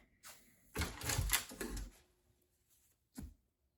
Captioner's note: door opening